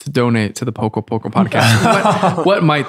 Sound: Father Angelus laughs

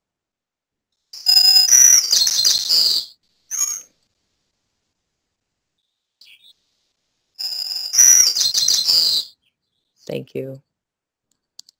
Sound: sound effect

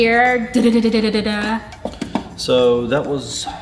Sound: makes drum roll sound

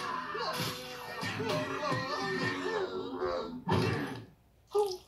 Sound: punching, bickering; punching, bickering, licking; whimpers

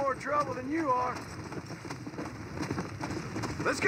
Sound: galloping horse

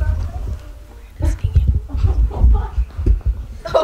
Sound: laughter

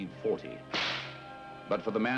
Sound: whip snapping

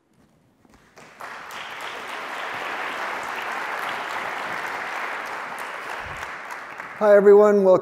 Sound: applause

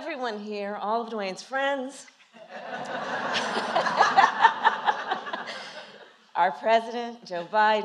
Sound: laughter

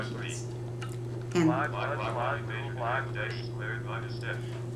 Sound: Electronic voices of calculators

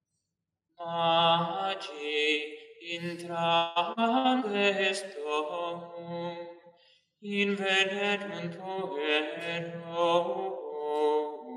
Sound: chant

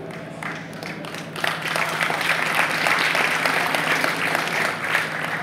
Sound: audience applause

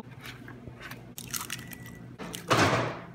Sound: egg crack

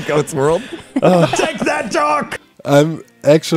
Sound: everyone laughs

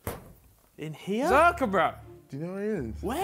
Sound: murmurs

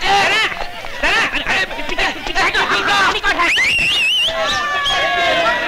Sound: whistling

